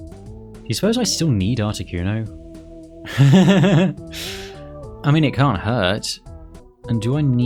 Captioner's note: laugh